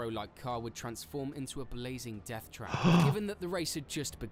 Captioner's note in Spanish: El doctor de urgencias jadea